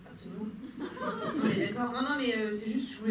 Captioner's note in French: rires